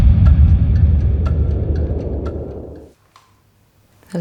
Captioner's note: clock ticking